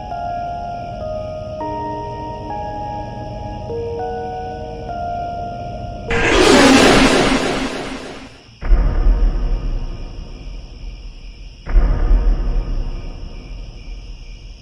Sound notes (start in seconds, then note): 6.1 jump scare; 8.5 eerie music